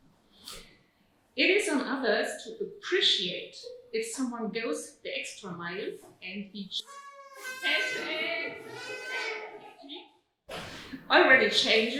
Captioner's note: audience toots